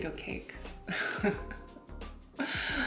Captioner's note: laughs in korean